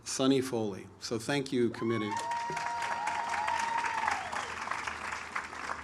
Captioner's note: audience applauds